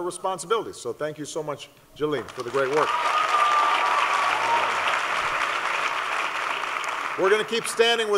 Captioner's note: applause